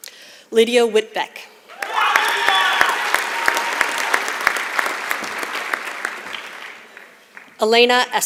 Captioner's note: applause